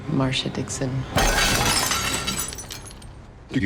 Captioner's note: crashing